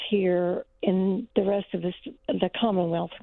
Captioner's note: none